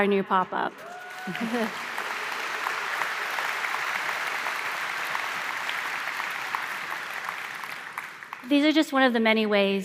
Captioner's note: applause